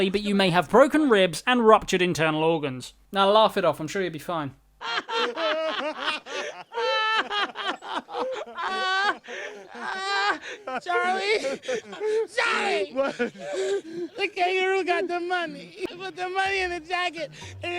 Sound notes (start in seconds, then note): 5.4 laughing; 7.0 laughter turns to crying